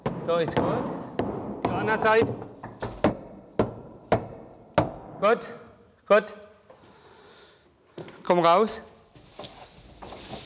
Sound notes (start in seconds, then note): 3.1 knocking sounds